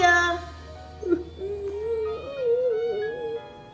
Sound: cries

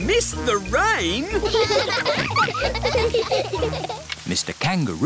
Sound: all laughing

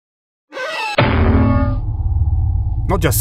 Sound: bonk

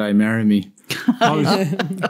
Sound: laughter

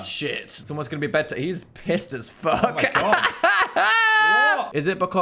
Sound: laughs

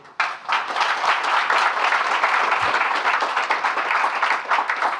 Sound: audience applauding

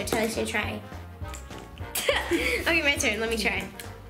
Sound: laughing

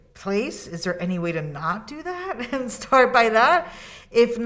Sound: laughs

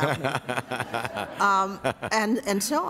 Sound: laughter

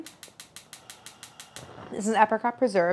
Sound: fire crackling

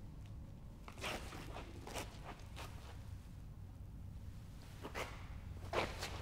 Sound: none

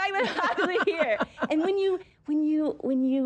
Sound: laughter

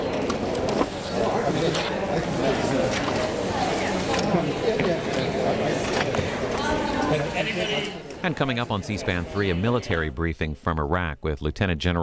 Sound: crowd Noise

